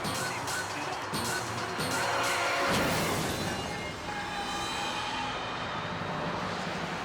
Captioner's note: tires screeching; car crashing